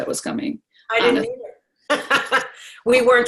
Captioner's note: laughs